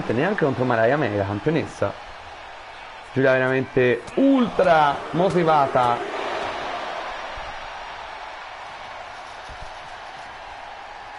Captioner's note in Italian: Applauso